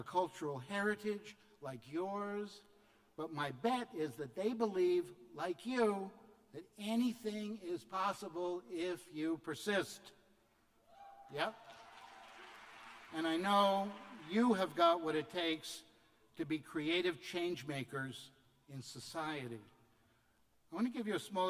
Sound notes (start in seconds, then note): 10.9 cheers; 13.3 applause